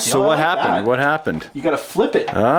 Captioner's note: voiceover